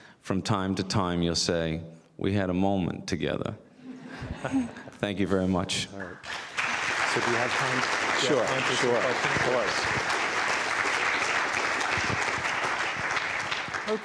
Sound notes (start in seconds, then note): 3.8 audience laughs; 6.2 audience applauds; 10.6 audience applauding